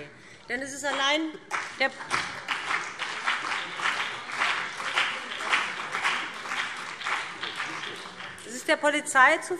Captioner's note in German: Beifall BÜNDNIS 90/DIE GRÜNEN und CDU